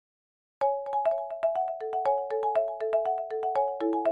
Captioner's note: calm chime